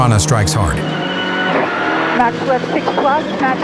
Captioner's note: engine revving